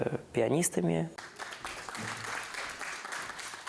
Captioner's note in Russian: аплодисменты